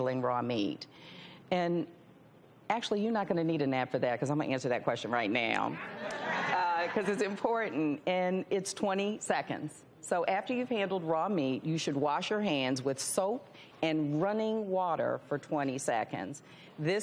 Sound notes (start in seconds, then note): 5.8 audience laughs